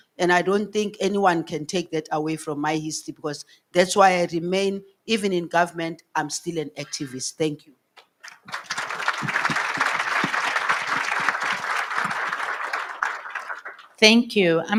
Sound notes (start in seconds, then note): 8.2 audience applauds